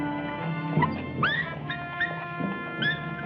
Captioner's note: whimpering